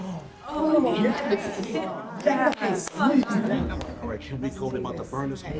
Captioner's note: group exclaiming